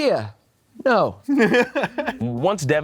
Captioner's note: Anthony laughs